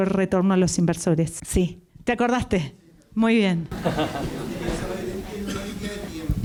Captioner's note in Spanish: Risas